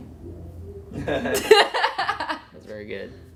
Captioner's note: laughter